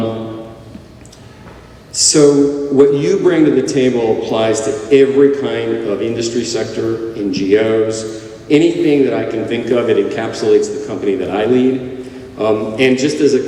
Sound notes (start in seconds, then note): none